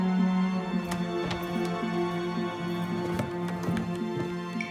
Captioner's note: door thudding